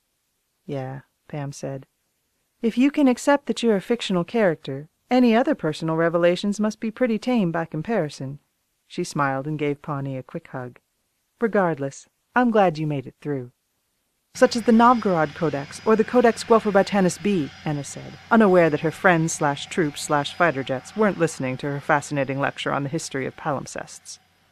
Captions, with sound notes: “Yeah,” Pam said. “If you can accept that you’re a fictional character, any other personal revelations must be pretty tame by comparison.” She smiled and gave Pawnee a quick hug. “Regardless, I’m glad you made it through.” [jet engine noises resume] “—such as the Novgorod Codex or the Codex Guelferbytanus B,” Anna said, unaware that her friends/troops/fighter jets weren’t listening to her fascinating lecture on the history of palimpsests.